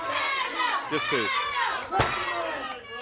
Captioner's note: crowd cheering